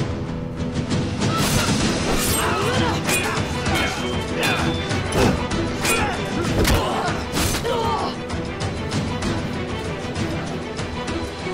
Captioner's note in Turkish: Çarpışma sesleri